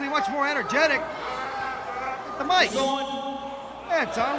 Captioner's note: crowd chatter